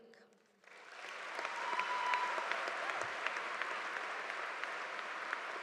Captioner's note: audience applauding